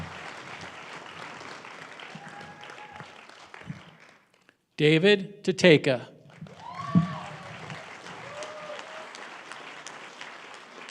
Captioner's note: applause